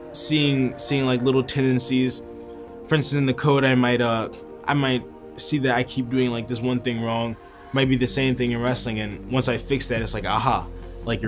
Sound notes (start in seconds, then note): none